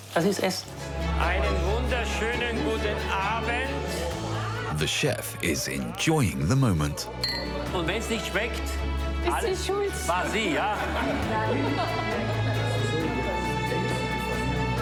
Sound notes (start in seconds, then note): 1.3 speaking foreign language; 7.7 speaking foreign language; 11.3 gentle music continues